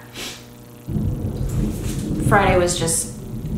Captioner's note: thunder rumbles